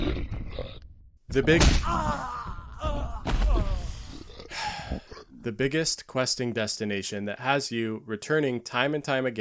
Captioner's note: sigh